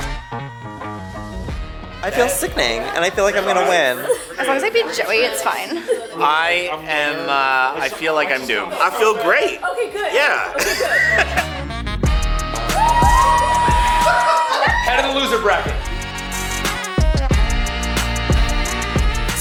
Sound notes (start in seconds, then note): 0.0 music slows; 10.4 laughs; 11.5 upbeat music; 12.2 crowd cheers; 15.8 upbeat music